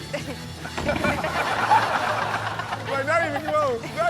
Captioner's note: audience laughs